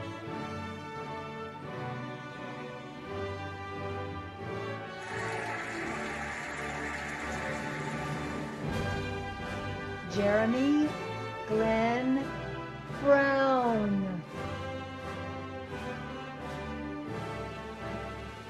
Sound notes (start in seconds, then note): 5.0 cheering and applauding; 15.5 cheerful music